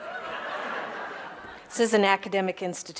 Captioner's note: audience laughing